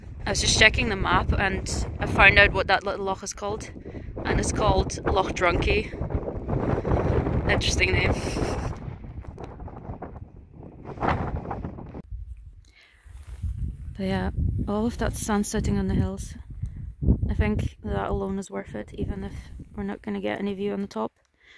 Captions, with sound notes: I was just checking the map and I found out what that little Loch is called. And it's called 'Loch Drunkie'. Interesting name. (laughs) But yeah ... All of that sun sitting on the hills. I think that alone is worth it, even if we're not gonna get any view on the top.